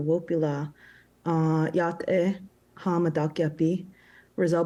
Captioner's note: speaking Native language